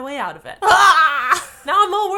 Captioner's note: frustrated scream